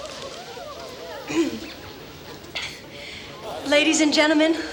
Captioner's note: Jilly clears her throat